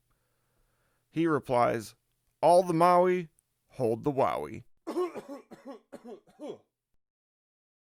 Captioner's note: coughing